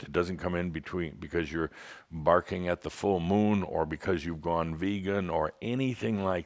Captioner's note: none